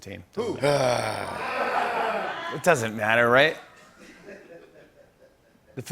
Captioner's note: groaning